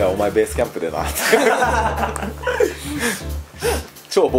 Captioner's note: laughs